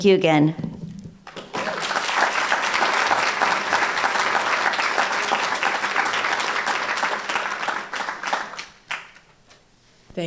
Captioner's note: applause